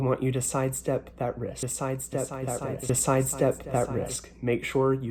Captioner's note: echoes